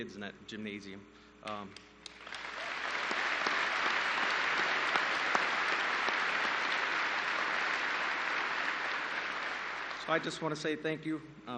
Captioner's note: applause